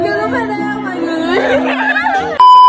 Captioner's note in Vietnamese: cười như điên